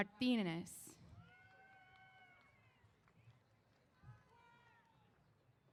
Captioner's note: cheers